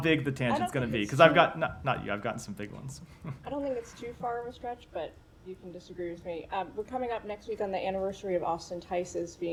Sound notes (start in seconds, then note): 3.2 laughter